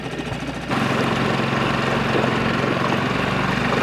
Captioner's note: engine rumbling